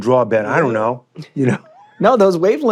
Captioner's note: chuckles